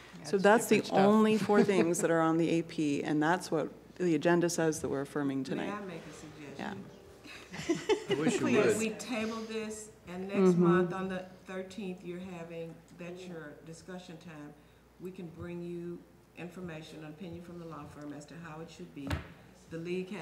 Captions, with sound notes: That is the only four things that are on the AP and that is what the agenda says and what we are for me to. (Laughter) »: Can we table this and then on the discussion time, we can bring information from the law firm as to how